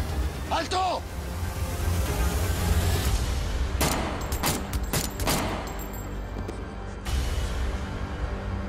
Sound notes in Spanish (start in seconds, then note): 3.8 Disparos